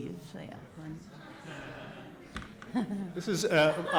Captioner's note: audience laughs